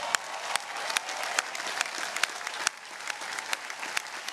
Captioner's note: audience cheering